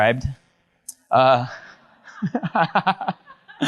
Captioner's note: audience member laughs; laughs